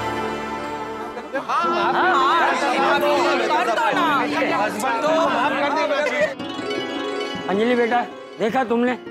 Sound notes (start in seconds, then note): 4.3 indistinct chatter